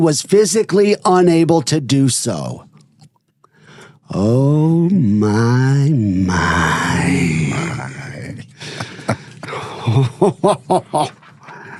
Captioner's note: laughing